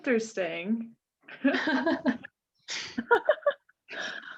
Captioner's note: laughing